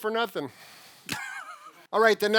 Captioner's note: laughs